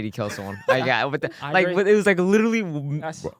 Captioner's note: laughs